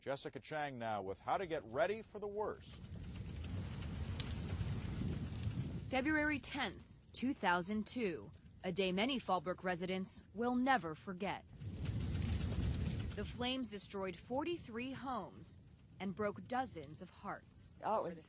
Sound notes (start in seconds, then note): 3.7 fire crackling; 11.9 fire crackling